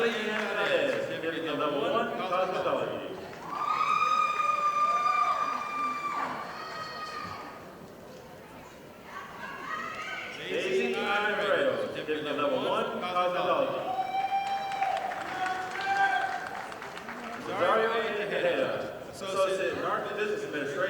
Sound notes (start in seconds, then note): 3.2 audience applauding; 14.0 audience applauding